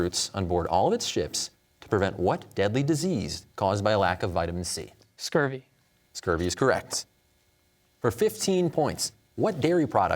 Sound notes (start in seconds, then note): none